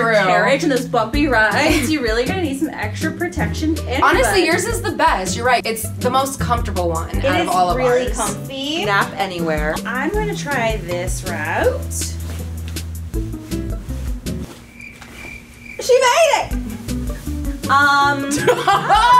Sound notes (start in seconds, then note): 10.4 rustling; 14.4 crickets chirping